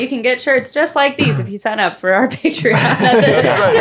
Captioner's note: laughing